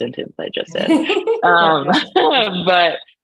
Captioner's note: laughs